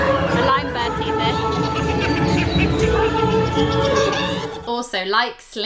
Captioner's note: hyena Laughter